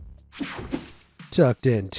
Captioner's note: screen whooshing